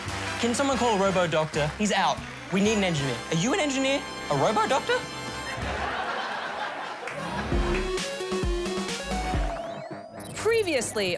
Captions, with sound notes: Can someone call a robo-doctor? He's out. We need an engineer. Are you an engineer? A robo-doctor? (LAUGHTER)